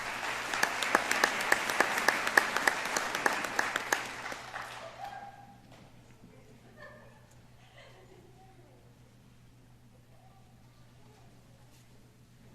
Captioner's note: applause